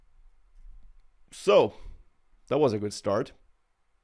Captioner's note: inhales deeply